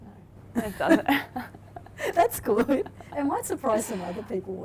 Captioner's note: laughs